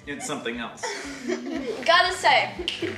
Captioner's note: laughs